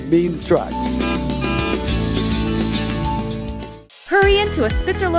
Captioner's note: truck honking